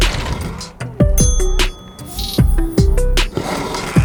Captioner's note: ding